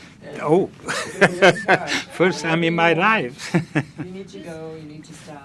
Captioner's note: laughing